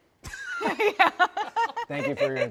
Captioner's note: laughs